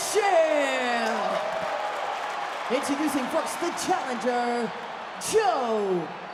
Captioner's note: applause